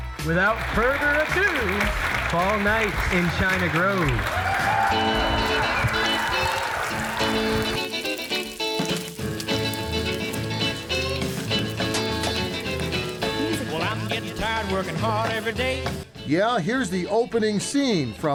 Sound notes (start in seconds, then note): 5.0 group cheering; 5.0 playful music